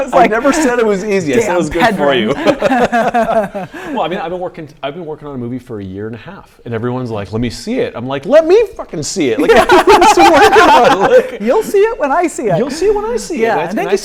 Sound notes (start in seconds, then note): 1.8 laughing